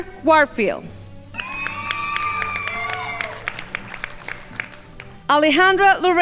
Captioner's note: crowd applauding